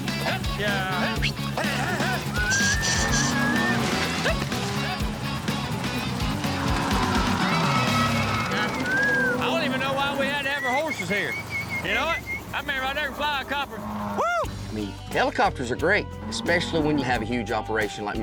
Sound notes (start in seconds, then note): 1.9 whistling; 2.4 mooing; 5.9 helicopter whirring